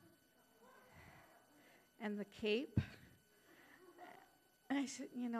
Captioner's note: scattered chuckling